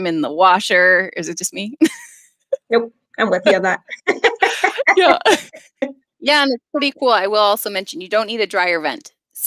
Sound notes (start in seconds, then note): 2.1 chuckles; 3.9 laughter